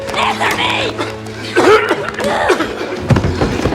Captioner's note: coughing